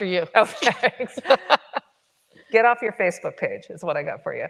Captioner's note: chuckles